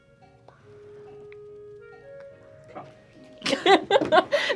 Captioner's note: whispers; both laugh